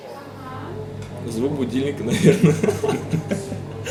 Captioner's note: laughing